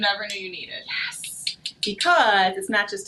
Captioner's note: tongs snapping